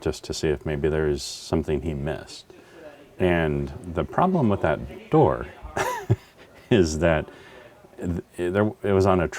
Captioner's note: laugh